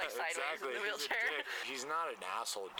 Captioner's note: laughter